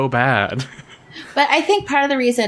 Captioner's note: laughs